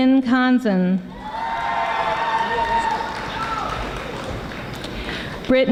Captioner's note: audience applauding